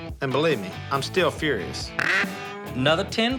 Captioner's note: duck call